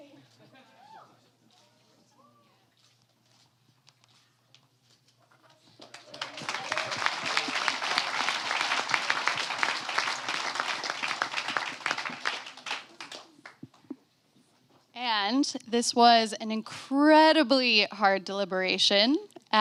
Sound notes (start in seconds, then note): 5.6 applause